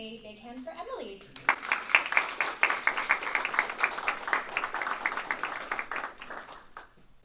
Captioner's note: applause